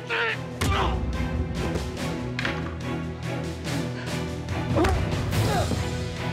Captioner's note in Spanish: golpe fuerte